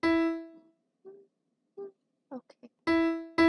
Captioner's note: humming